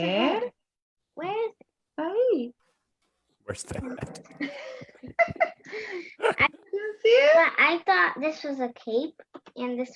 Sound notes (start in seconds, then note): 4.2 laughs; 4.2 chuckles